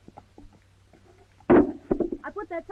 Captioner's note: sign clatters